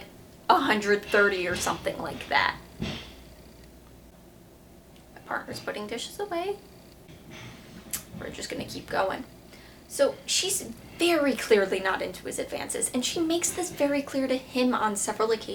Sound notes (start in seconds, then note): 2.7 dishes loudly being moved around; 7.0 more loud clanging